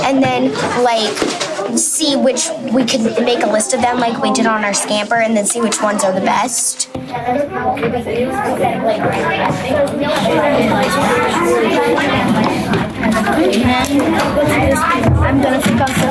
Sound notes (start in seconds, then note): 10.5 students discussing in groups